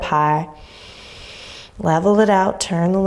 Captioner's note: inhaling deeply